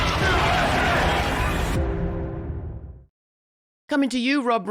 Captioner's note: crowd chattering